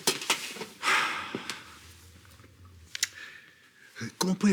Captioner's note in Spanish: Suspiros